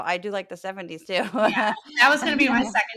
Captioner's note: laugh